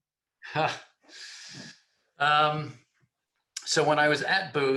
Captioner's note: laughs